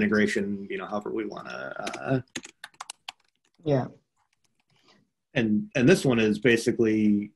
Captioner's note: computer keyboard clacking